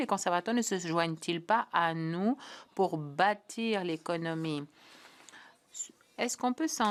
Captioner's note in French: voix de l'interprète